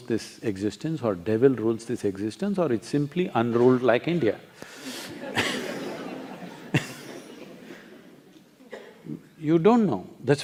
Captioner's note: laughter